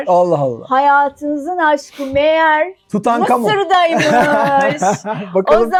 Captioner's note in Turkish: kahkaha